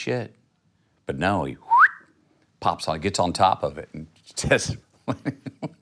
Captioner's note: whistles